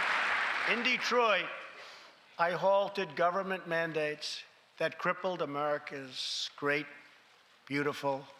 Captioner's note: applause